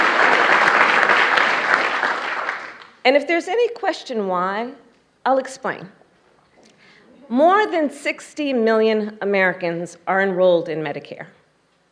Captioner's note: applause